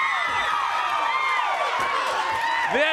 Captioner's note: crowd cheering